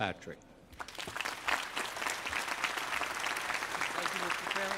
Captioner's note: applause